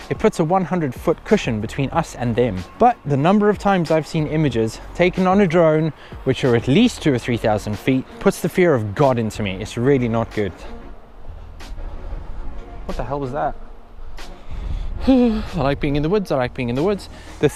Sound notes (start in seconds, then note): 15.2 shudders